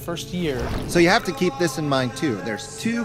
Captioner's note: water splashing